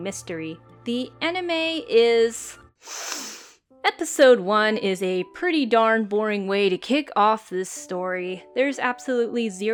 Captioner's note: deep breath